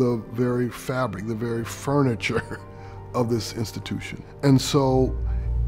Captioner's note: laughing